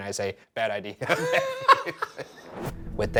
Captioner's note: Shane and Ryan laughing